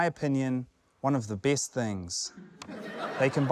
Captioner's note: laughter